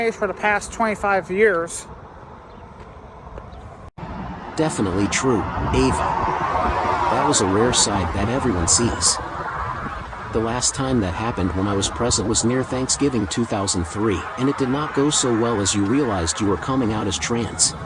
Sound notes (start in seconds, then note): none